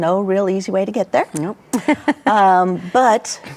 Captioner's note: laughs